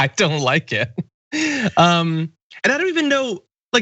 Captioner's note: laugh